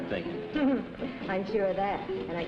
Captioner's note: laughs